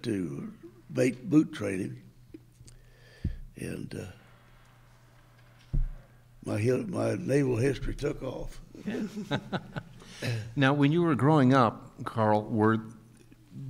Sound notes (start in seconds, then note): 8.8 chuckles